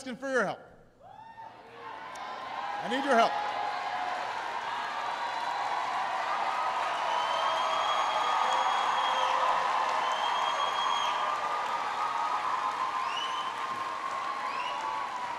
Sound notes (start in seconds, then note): 2.0 applause